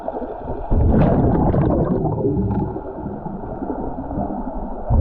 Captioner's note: underwater sounds continue